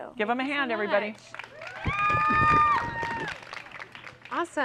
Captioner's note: cheering and applause